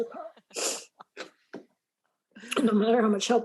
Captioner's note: laughs